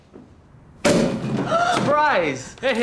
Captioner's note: bottle pops open; gasps